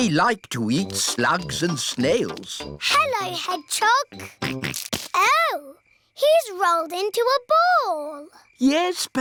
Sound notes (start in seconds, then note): 4.7 snorts